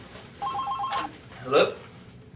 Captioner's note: phone ringing